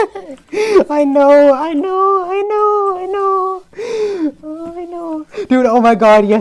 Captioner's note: laughing